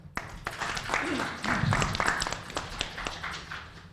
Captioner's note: applauding